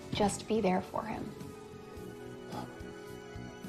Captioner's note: exhales